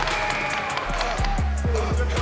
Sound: whistle blows

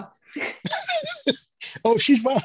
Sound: all laugh

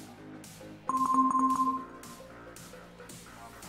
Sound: Avast Threat Detection Sound X2

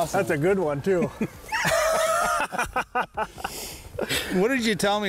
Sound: both laugh

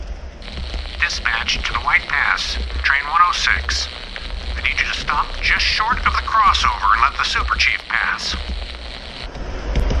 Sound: message on the radio

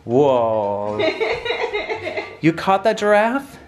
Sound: laughing

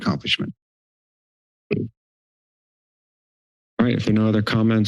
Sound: silence

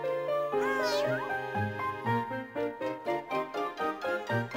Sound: happy ending music; cat meowing

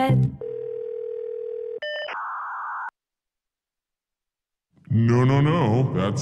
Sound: phone ringing

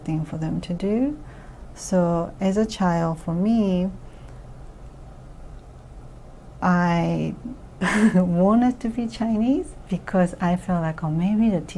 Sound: laughs

